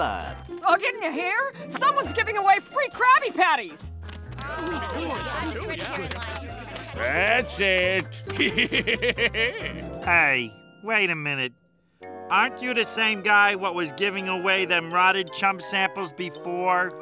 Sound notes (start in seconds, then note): 8.2 laughing